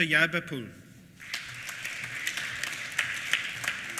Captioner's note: applause